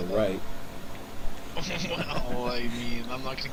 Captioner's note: chuckling